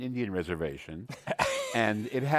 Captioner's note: laughs